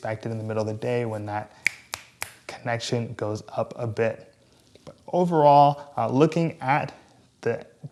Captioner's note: snaps